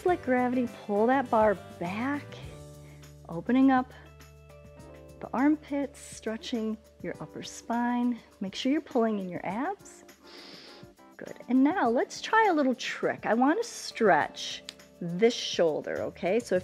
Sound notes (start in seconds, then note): 10.2 inhales